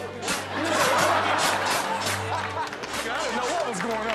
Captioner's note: audience laughs